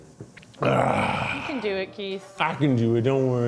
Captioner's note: sighs